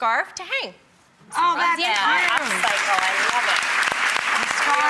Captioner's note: applause